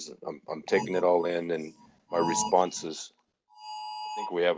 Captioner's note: alarm sounding